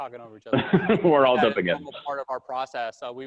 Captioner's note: laughs